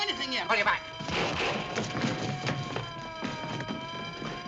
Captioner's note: siren wailing; gunfire continues